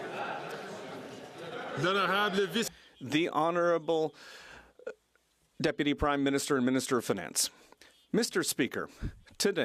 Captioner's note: some Applause